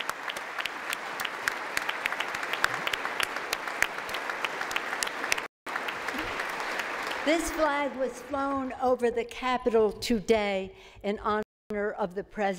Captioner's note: applause